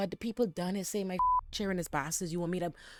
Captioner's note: beep